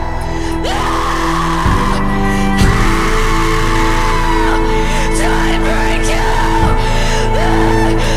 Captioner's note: screams